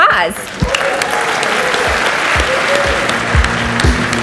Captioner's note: audience cheers and applauds